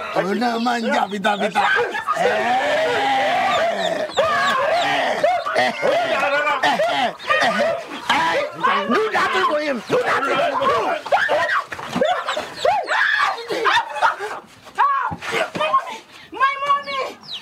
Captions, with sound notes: (Ekong speaking in foreign language) - Do that thing for him. Do that thing. (woman screaming) - My mommy.